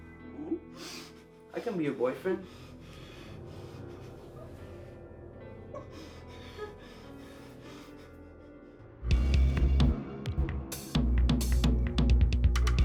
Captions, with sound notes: I can be your boyfriend. (Kathy crying) (tense upbeat music)